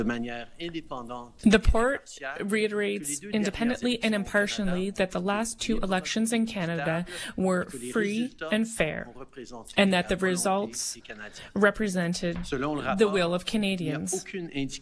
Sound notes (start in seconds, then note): 3.7 speaking French